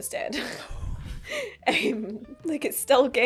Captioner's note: affronted gay exhale